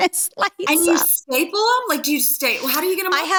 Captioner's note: laughing